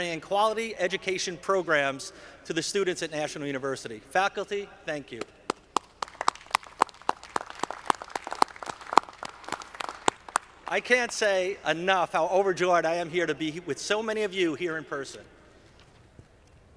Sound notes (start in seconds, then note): 5.4 audience clapping